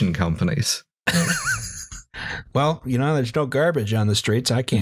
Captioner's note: laughter